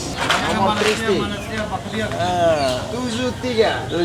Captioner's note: speaking Tetum